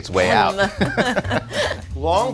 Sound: laughing

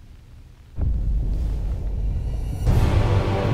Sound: distant explosion

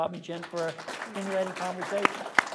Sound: applause

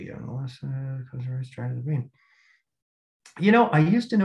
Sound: faintly speaking

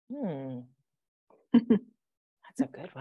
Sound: chuckling

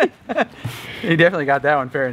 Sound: laughs

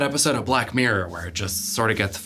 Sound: none

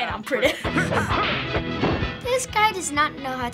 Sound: Johnny Bravo grunting aggressively

